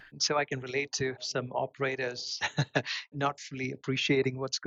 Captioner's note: laughs